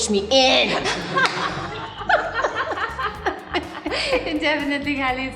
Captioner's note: both laugh